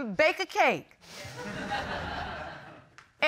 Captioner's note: audience laughing